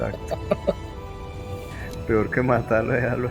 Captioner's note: laughs